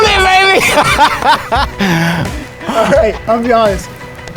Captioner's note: laughing